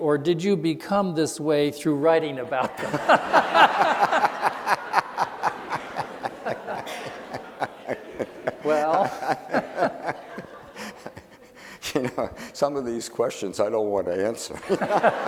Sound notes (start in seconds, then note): 3.4 laughing; 14.5 laughing